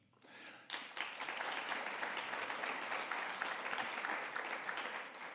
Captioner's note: audience applauding